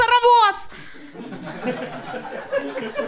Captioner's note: audience laugh and applause